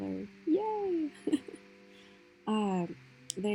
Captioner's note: chuckle